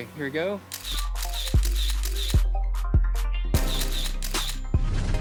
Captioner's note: camera clicking; upbeat music